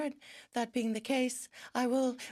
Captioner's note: speaking in French